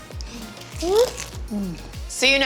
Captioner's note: crunching food